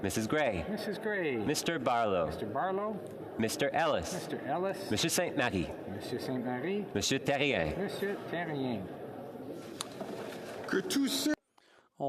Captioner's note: calling of recorded vote